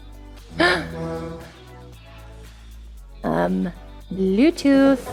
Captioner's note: bluetooth syncing